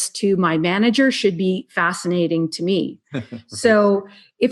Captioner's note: laughs